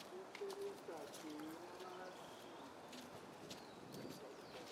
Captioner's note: distant talking